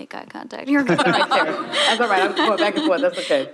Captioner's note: laughing